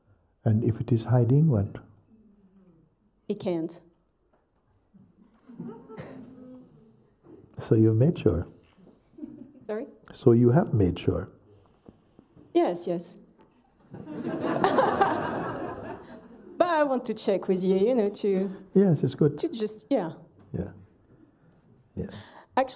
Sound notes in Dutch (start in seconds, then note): 5.4 lacht; 13.9 gelach